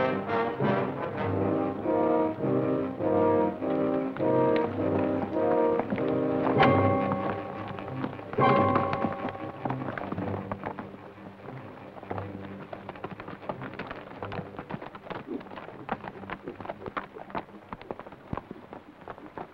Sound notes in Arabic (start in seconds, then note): 13.1 ضربات الحوافر